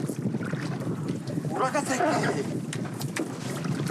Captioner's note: Portuguese spoken audio